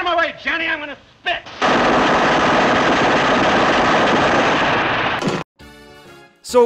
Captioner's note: gun fire